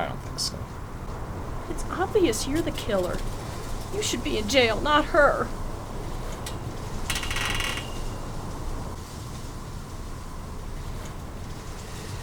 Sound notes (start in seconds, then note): 6.8 swing creaks